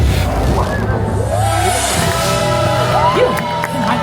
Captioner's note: audience cheering; audience applauding; Mickey speaking French